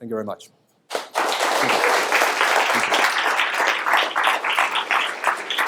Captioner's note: audience applauds